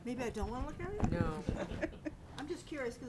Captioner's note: laughing